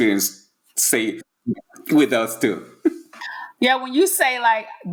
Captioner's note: laughing